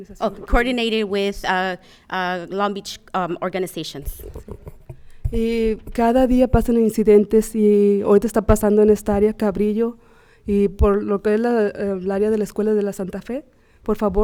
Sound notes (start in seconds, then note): 0.0 speaking Spanish; 5.9 speaking Spanish